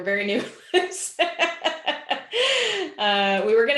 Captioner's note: laughs